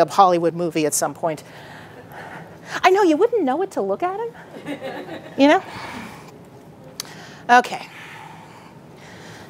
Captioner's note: audience laughing